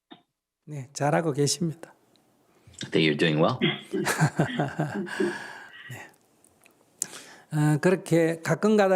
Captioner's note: Sunim/Questioner laughter